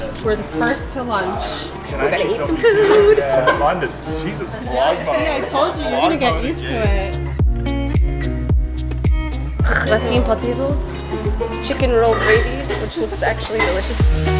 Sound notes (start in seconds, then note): 7.2 upbeat music; 10.0 speaking in foreign language